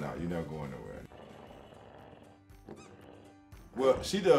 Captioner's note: hippo growling; toy squeaking